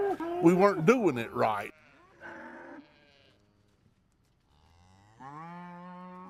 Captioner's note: cow's mooing